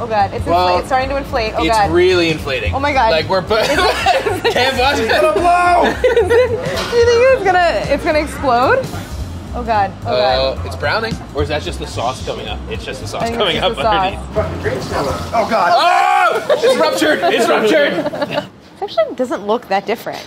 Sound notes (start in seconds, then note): 3.6 both laughing; 6.9 laughing; 15.6 screams; 16.4 laughing